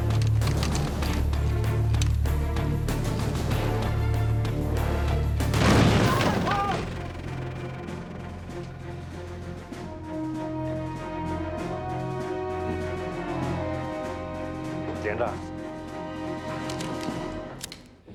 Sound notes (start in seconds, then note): 6.1 men shout angrily; 15.2 speaks Chinese language